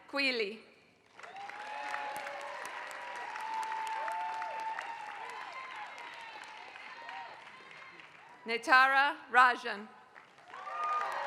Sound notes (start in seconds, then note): 0.0 applause; 10.0 applause